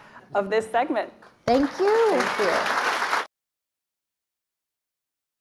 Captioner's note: audience applauding